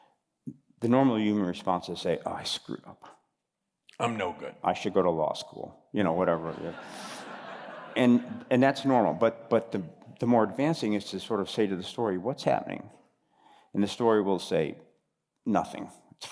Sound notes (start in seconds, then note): 6.4 laughter